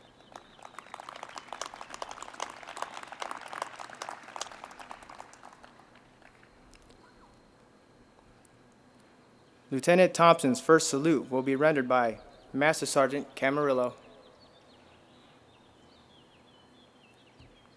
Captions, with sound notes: (audience applauds) Lieutenant Thompson's first salute will be rendered by Master-Sergeant Camarillo.